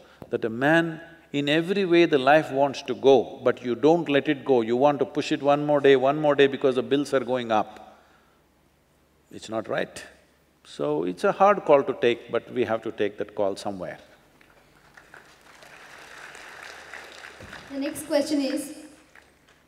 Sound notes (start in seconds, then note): 14.5 applause